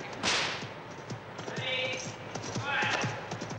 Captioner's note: whip cracking